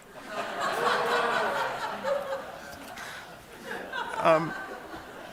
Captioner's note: laughter